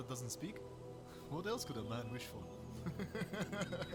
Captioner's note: all laughing; laughing